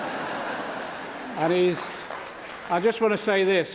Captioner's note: applause